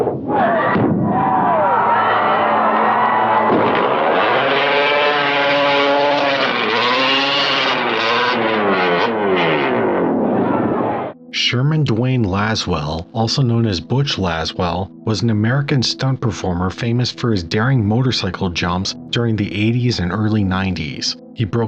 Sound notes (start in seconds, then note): 0.3 crowd cheering; 3.6 motorcycle engine revving